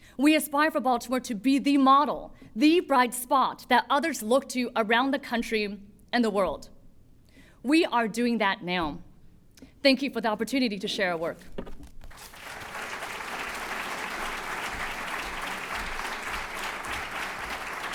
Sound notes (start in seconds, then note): 12.1 applause